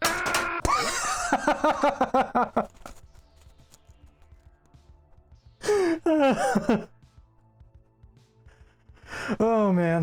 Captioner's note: laugh